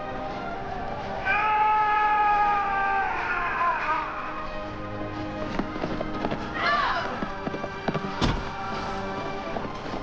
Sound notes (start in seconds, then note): 1.6 yelling; 6.9 grunting